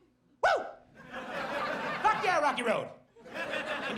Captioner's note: audience laughs